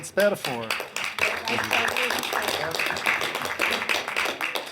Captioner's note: council members clap